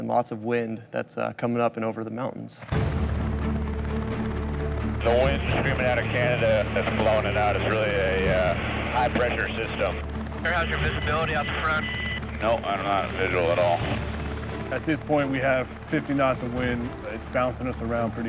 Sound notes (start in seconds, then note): 3.1 intense music; 5.1 man On Radio; 12.8 man On Radio